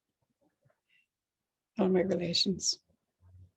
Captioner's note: speaking alternate language